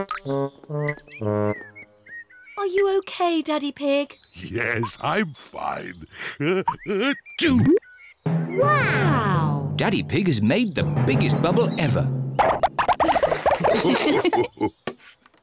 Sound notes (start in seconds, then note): 9.3 sneezes